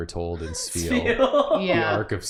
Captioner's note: laughing